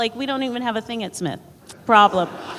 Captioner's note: laughter